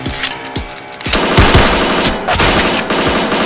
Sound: guns loading; gunfire

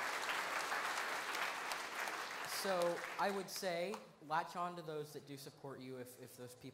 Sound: applause

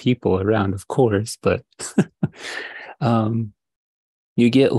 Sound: chuckles

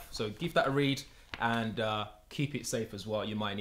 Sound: none

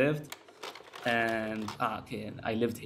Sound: slide projector clicks

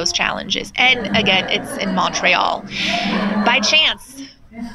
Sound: laughter

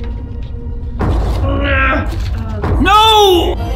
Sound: groans

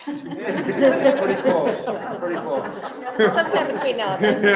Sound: members laughing

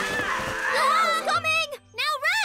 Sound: squawks excitedly; screams; both screaming

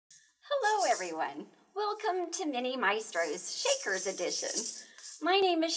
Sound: shaking noise

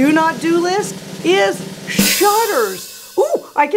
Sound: loud boom; drum roll

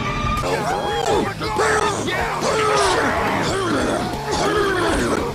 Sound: grunting

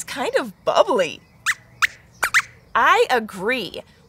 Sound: squeaks squeaks

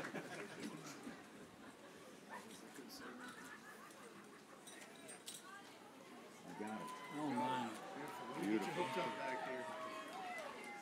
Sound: cheers and applause

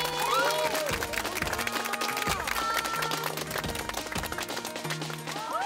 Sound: they send warm applauses

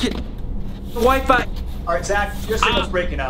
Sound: posters fluttering

